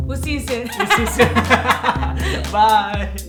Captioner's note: laughing